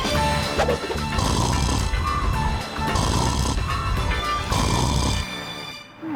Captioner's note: upbeat music; snoring